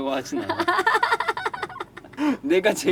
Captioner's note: laughter